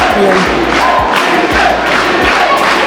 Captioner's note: crowd